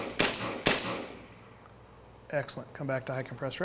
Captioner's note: gunshots